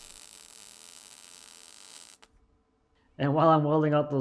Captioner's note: welder buzzing